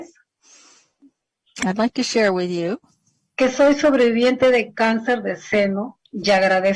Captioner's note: speaking spanish